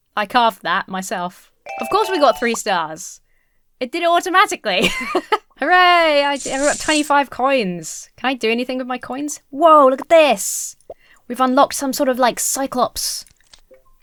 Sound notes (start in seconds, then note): 4.8 laughs